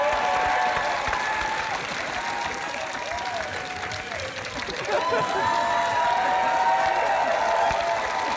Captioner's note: cheering and applause